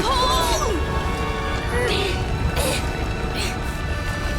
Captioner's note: grunting